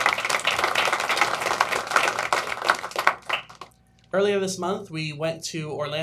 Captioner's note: applause